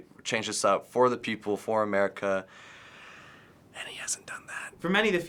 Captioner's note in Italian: A bassa voce